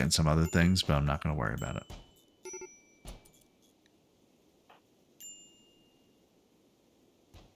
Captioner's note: silence